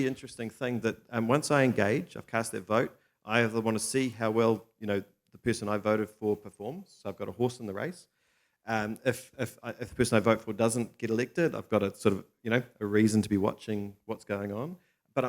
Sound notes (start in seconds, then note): none